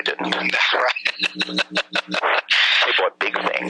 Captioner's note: laughing